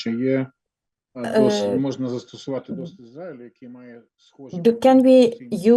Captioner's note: non-english speech